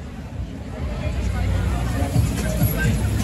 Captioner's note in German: Stimmengewirr